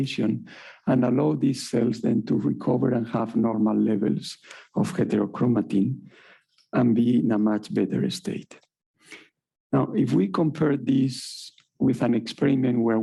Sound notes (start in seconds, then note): none